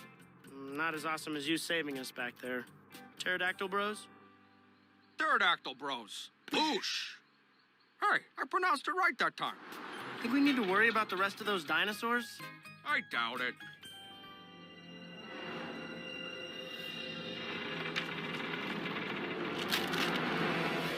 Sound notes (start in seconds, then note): 17.2 creaking